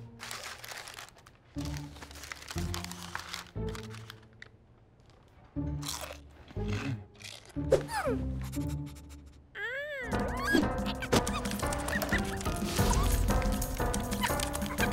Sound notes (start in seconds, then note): 5.8 crunching; 7.4 squeaking, sniffing